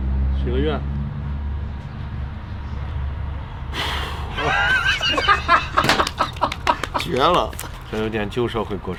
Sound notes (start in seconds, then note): 3.7 blows; 3.8 laughs